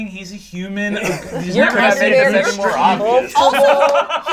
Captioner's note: overlapping chatter